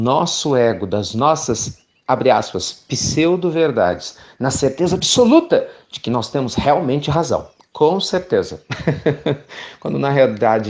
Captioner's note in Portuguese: Risos